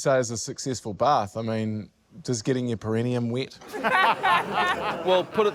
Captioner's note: laughter